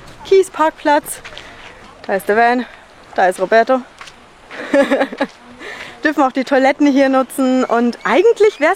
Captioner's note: laughter